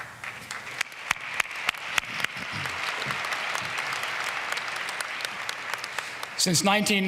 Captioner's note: applause